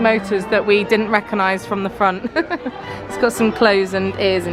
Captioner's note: laughing